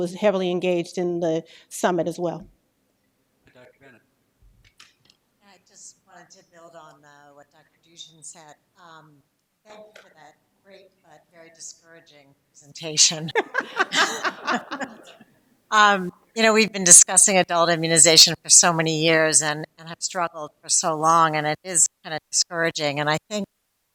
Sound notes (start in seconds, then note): 3.5 laughter